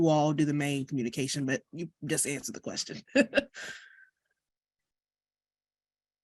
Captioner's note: chuckles